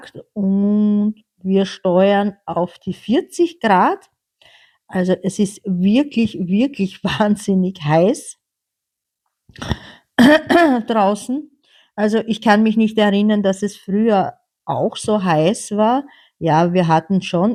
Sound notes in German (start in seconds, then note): 10.2 räuspern